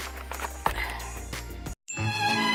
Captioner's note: sighs